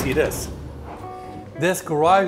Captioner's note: garage door humming